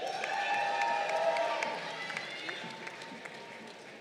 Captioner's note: crowd cheering